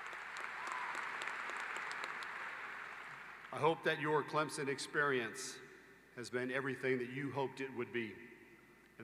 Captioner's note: applause